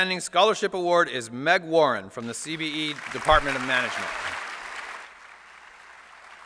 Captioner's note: applause